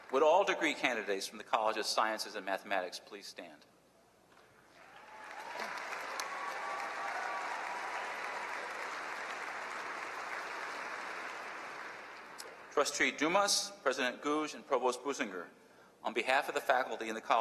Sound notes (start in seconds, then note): 0.0 applause; 4.7 applause